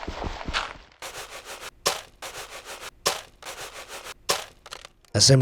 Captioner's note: game thuds, crunches; gravel thuds, crunches